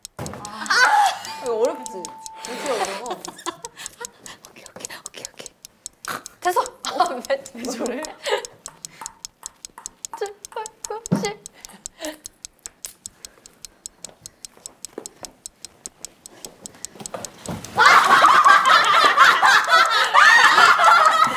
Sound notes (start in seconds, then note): 6.0 laughing